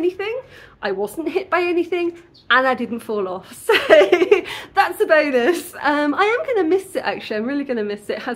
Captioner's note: laughing